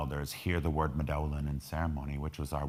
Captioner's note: speaking in foreign language